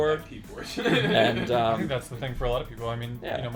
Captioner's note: laughing